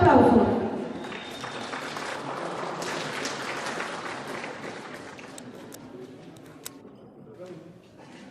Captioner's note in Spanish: aplausos del publico